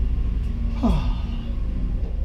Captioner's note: sigh happily